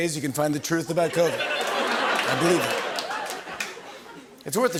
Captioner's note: laughter